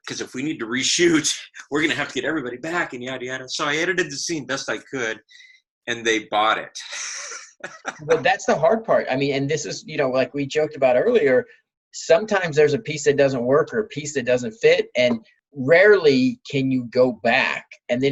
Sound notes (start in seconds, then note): 6.8 laughing